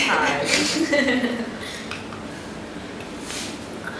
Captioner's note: awkward laughing